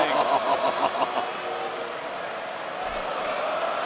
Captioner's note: Booker laughs